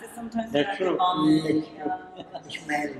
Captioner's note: chatter